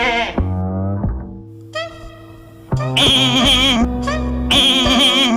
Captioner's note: goat Bleating; Vivian Bleating; psychotic Goat bleating sounds